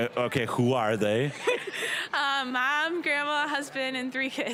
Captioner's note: laughing